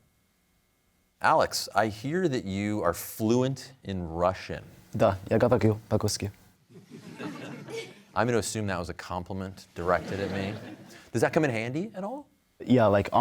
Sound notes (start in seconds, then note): 4.8 speaking Russian; 6.7 laughter